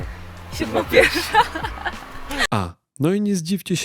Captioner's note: laughs